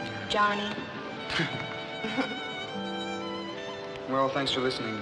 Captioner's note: both chuckling